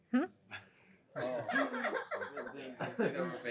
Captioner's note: laughter